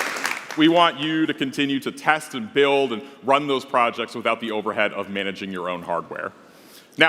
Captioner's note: applause